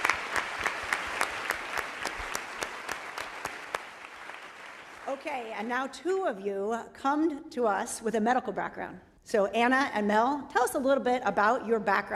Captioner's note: applause